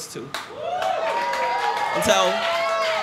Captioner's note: cheers and applause